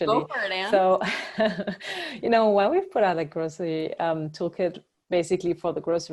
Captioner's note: laugh